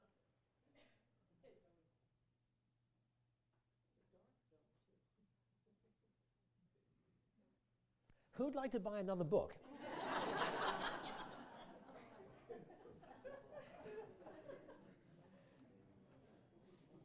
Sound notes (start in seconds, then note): 9.6 laughter